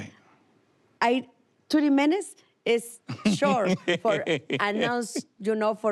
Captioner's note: laughs